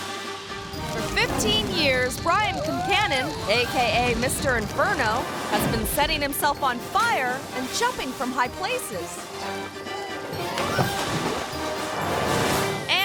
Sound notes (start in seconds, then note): 0.0 graphic whooshes; 0.3 rousing music; 7.5 Mr. Inferno splashing; 10.3 Mr. Inferno splashes